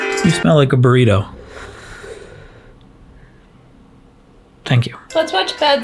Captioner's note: festive music; puffs